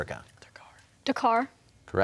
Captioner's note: whispering